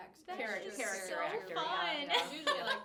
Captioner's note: laughs